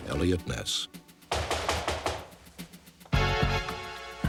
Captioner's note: knocking